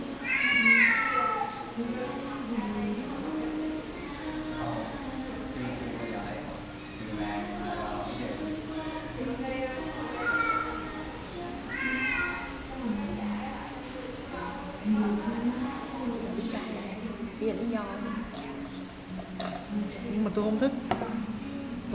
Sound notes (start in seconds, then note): 0.2 meowww; 10.1 meow; 11.6 meowwww